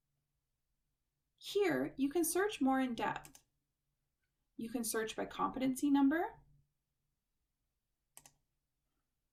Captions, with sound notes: Here you can search more in depth. [Click] You can search by competency number.